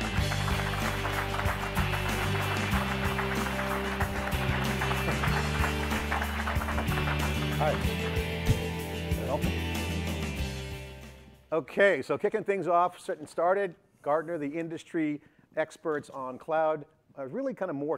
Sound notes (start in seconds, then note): 3.7 electronic music; 5.9 clapping